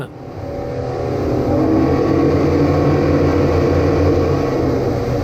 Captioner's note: engines roaring